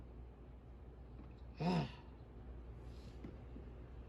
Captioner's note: sighs